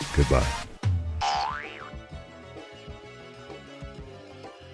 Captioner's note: boing VFX